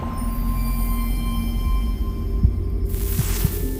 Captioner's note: bells